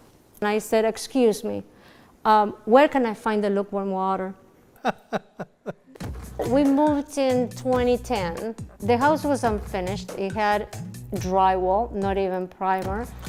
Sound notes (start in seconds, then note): 4.8 laughter